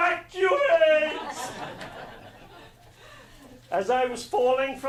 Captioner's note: laughing